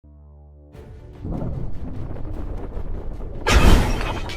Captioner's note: Sound of asteroids being drawn in by Saturn